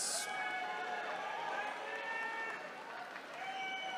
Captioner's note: attendees cheering